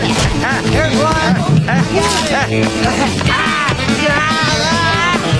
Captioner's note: grunting and yelling